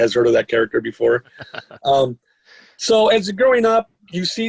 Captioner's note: laughing